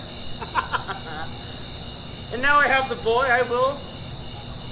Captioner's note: laughs